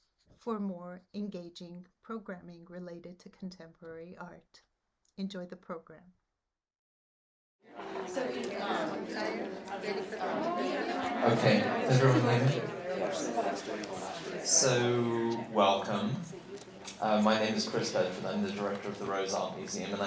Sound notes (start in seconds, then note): 8.5 indiscriminate chattering